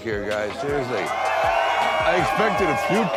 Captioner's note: cheering